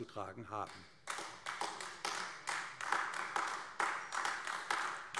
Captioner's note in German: Beifall AfD